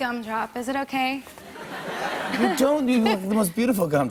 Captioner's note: laughter